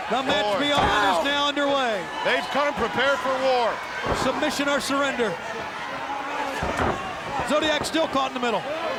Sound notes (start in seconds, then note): 1.7 wrestler grunts